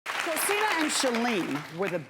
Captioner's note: applauding